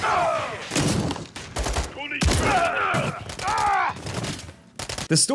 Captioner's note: soldier yells; guns blasting; door slams; soldiers yelling